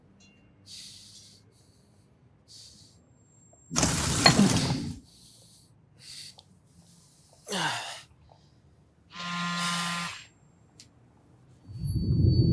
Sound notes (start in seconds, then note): 7.5 grunting softly; 9.1 phone buzzing